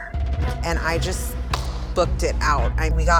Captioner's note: hands slapping